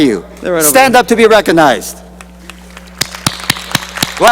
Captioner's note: applause